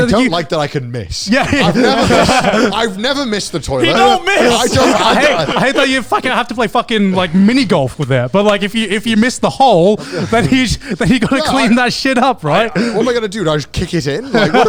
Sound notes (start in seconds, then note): 4.2 all laughing; 11.9 laughs